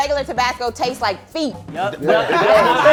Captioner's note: laughing